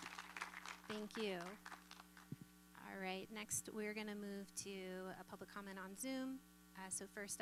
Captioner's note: applause